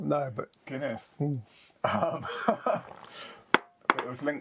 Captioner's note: laughs